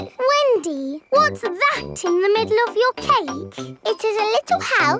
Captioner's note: snorts